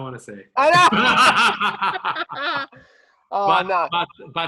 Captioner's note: both laughing